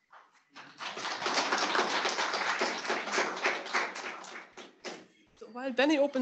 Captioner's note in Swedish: Applåder